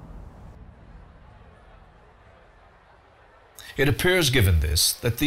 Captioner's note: crowd noise